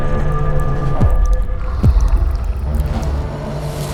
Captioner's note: alien growls, low